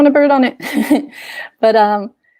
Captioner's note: chuckles